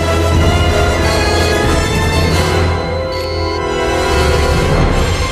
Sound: computer beeps

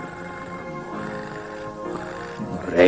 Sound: the cat is purring

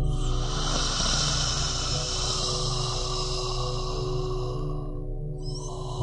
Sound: creepy raspy breathing

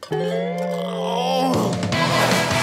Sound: groaning

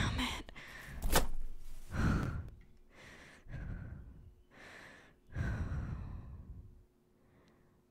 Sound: wet flop and heavy breathing

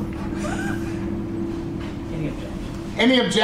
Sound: laughs

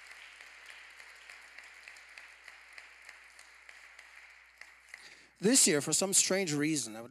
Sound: applause

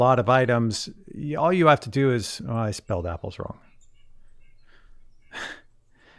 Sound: laughs

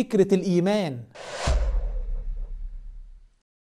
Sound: sound effects

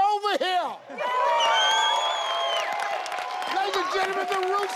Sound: audience cheering

